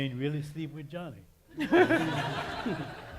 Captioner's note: laughter